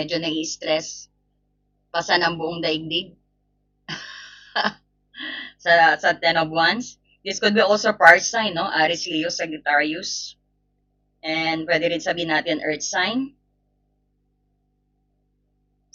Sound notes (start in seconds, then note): 3.9 laughter